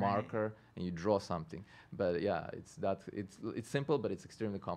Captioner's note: stutters